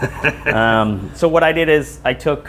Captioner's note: laughs